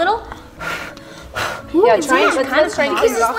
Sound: blowing

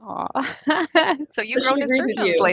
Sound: laughs

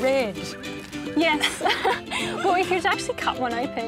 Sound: laughs

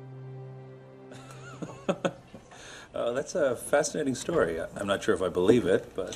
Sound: chuckle

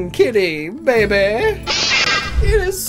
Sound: Perrserker’s cry

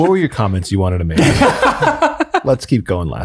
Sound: group laughs

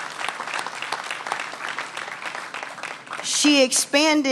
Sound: applause

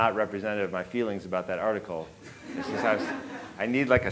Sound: audience laughing

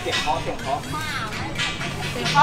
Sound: auntie knocking loudly; it’s a knocking sound; auntie knocking loudly; it’s a knocking sound

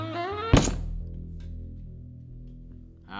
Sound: table slam

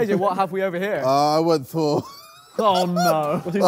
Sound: Sidemen laugh

